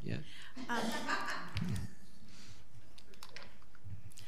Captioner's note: audience laughs